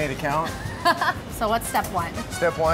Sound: laughing

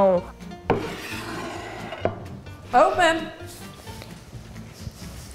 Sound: plate scraping

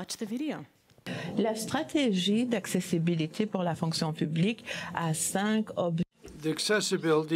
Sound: speaking in French

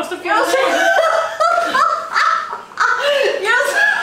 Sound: laughs

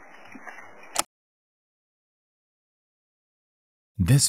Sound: tape player clicking

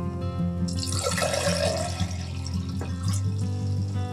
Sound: water flowing

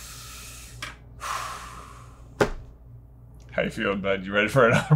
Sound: breathing heavily

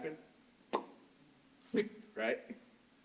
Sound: tongue clicks

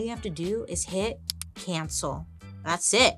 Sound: button clicks

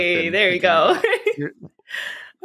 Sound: laughs

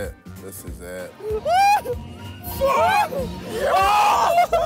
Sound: screaming

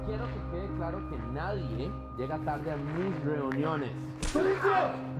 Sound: ominous music; speaking in Spanish

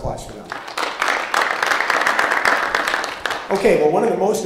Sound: audience applauding

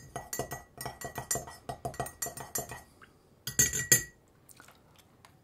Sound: clinking teaspoon

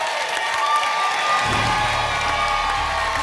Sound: applause and cheering cont; whoosh

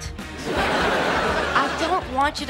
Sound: laughing

